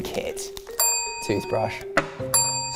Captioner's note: bell dings